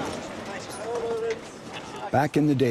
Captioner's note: children chatting